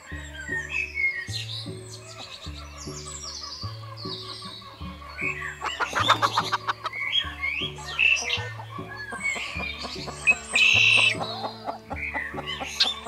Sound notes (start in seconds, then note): 0.2 playful string music; 5.0 chickens sqwuak, wings flap; 10.0 Muriel clucks